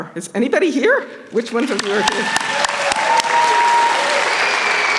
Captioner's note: applause